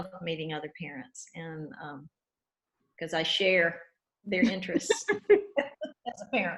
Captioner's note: laughs